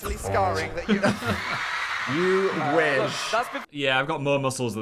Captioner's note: audience cheering